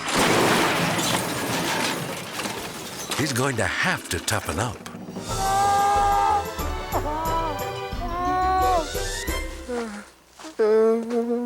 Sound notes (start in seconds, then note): 0.0 ATV crashing; 6.9 crying out